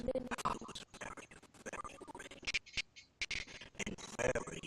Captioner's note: audio skipping